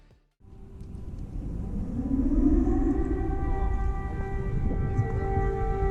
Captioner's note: air Raid Siren